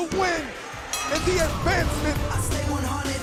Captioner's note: bell ringing